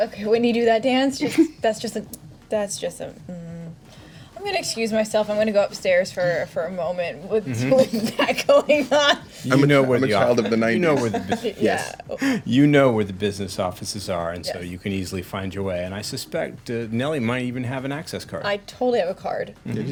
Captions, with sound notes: Okay, when you do that dance, that's just, that's just... I'm gonna excuse myself, I'm gonna go upstairs for a moment, with that going on. I'm a child of the 90s. (laughter) You know where the business offices are, and so you can easily find your way, and I suspect Nellie might even have an access card. I totally have a card.